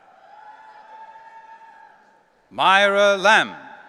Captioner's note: audience cheering